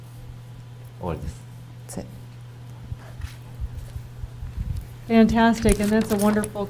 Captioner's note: speaking foreign language